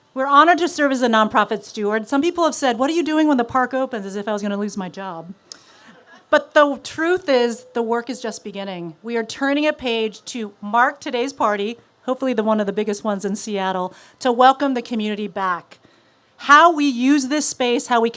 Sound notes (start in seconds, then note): none